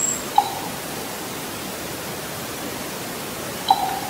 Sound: raven knocks

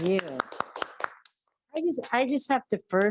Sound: audience clapping

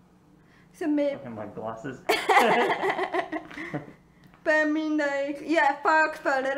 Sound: laughing

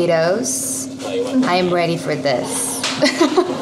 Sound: haha

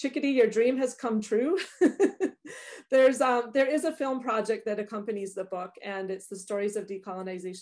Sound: laughs

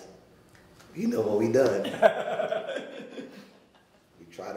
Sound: laughing

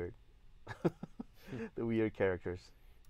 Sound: laughs

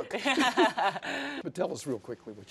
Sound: both laughing

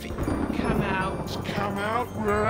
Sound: thunder

